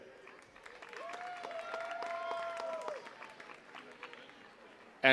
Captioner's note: attendees cheering and clapping